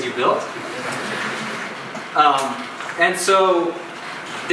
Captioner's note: audience chuckles